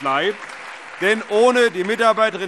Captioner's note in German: Allgemeiner Beifall